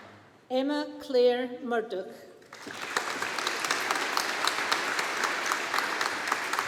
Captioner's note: audience applauding